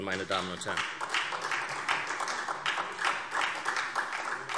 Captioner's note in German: Beifall SPD